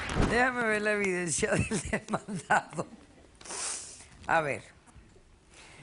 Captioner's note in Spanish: Ríe